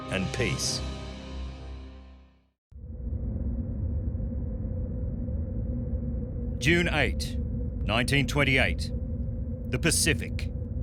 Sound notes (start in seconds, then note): 2.8 low humming